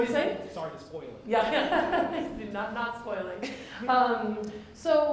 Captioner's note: laughs